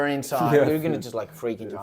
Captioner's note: laughs